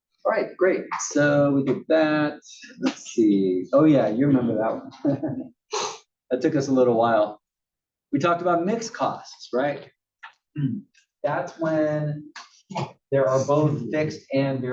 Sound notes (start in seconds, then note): 4.5 laugh